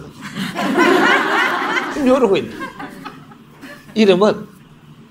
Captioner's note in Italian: forti risate del pubblico